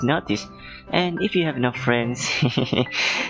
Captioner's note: hehehe